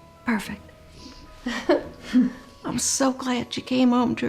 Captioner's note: chuckles